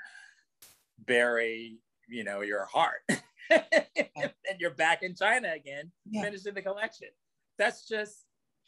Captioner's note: laughs